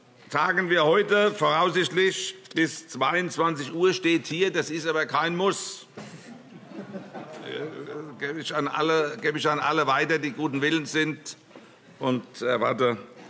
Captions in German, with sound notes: Wir tagen heute voraussichtlich bis 22 Uhr. Das ist aber kein Muss. [Heiterkeit] Das gebe ich an alle weiter, die guten Willens sind, und erwarte,